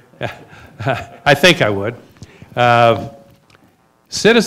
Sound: laughs

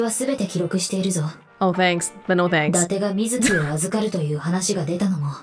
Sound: scoffs

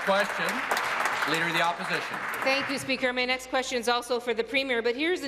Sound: applause

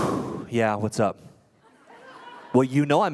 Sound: laughter

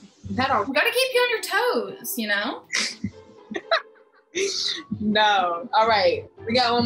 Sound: laughs

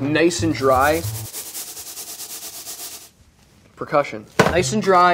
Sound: shaking pan back and forth

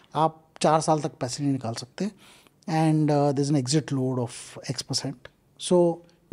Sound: speaks in Hindi

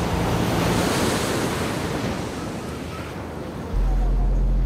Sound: ocean waves crashing

